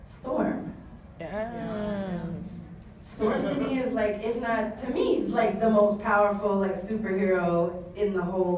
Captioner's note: audience oohs